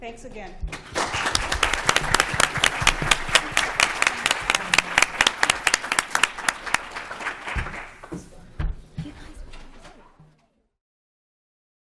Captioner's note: applause